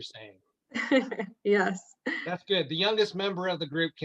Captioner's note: laughs